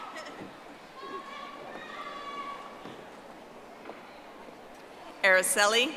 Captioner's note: audience applauding